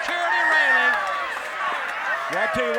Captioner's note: audience cheering